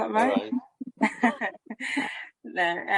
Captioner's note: laughs